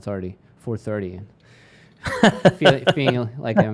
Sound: laughs

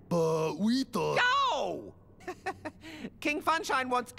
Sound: chuckle

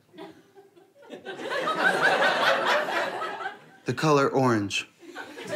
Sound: audience laughter

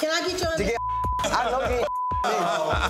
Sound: beep

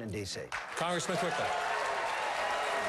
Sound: applause

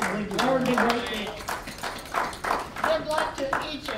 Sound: all applauding

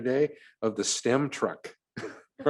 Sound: laughs

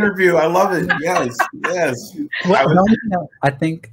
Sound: laughing

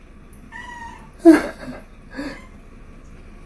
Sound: laugh

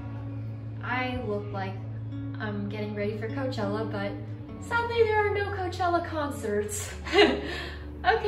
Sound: nervous chuckle

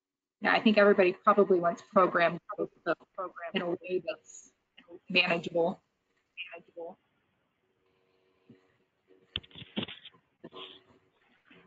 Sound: audio cuts out

